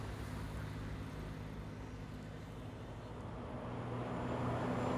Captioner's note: truck engines roaring